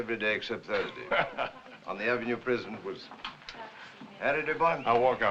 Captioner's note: laughs